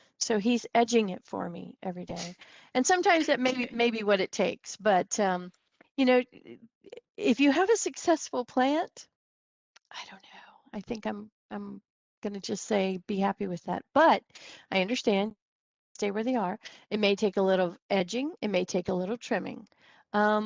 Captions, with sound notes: so he's edging it for me every day. And sometimes that may be what it takes but, um, you know, if you have a successful plant (whispers) I don't know, I think I'm, (regular voice) I'm gonna just say be happy with that. But I understand - stay where they are. It may take a little edging, it may take a little trimming, um,